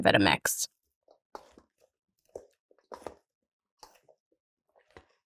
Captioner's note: spoon scrapping